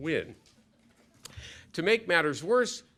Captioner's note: laughter